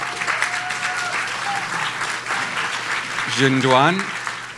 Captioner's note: audience applauds